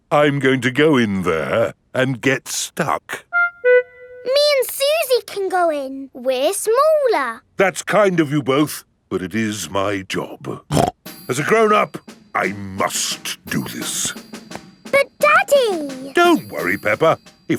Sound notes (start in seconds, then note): 10.7 snorts